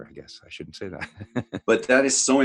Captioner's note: chuckles